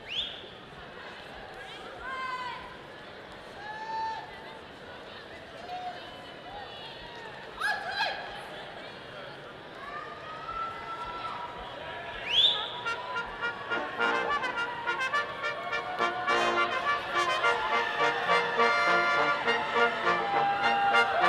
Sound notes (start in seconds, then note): 0.0 audience member whistles; 12.2 audience member whistles; 14.5 orchestral music